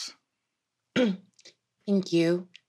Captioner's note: clears her throat